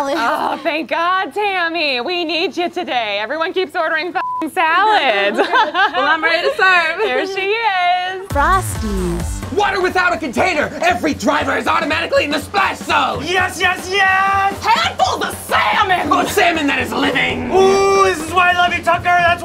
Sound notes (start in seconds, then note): 4.2 beep; 8.4 voiceover